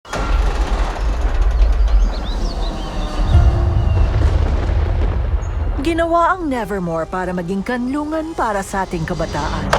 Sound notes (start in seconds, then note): 0.1 thunder crashes; 2.2 gate creaks; 3.3 mysterious music plays; 3.3 thunder crashes